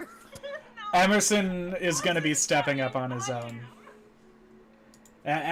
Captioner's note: laughing